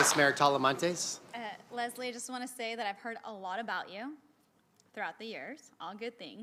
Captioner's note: applause